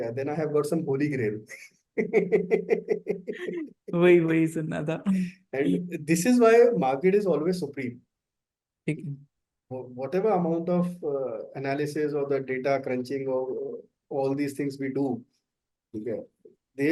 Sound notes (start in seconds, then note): 2.0 both laughs